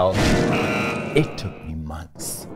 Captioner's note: beeping